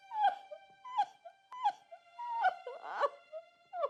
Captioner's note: crying